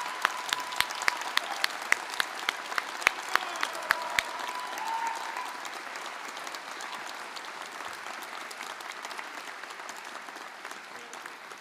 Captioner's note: applause